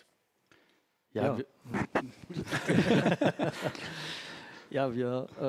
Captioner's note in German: lachen